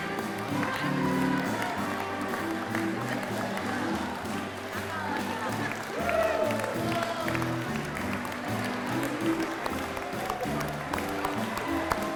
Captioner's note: applause and music continue